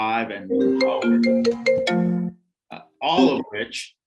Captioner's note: phone ringing